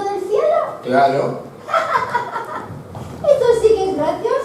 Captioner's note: laughs